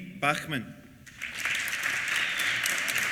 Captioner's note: applause